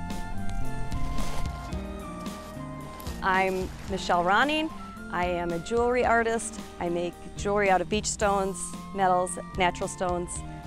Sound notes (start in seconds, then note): none